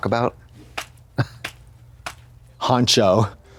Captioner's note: Katya slaps